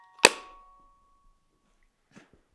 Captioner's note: lid thuds